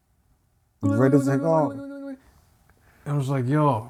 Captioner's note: bell ringing